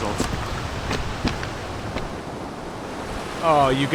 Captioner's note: water flowing